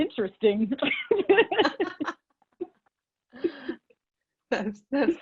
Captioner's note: laughing